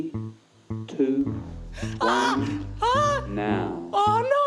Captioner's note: gasps